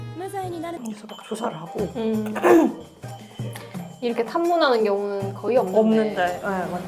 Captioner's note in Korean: 목을 가다듬음